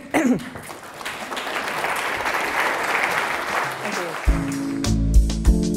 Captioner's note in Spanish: Aplausos